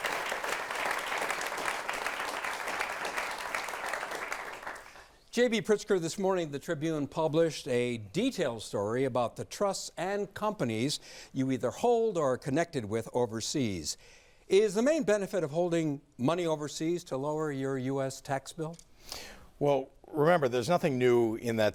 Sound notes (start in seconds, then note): 5.8 applause